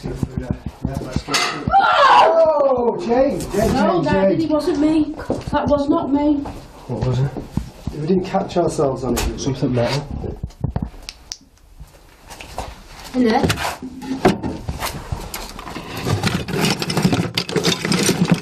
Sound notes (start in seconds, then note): 0.8 metal knocks; 1.2 yelling